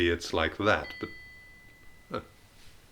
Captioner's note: ding!